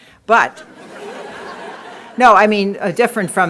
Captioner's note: laughter